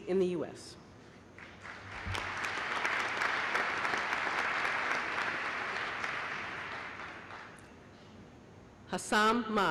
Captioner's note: applause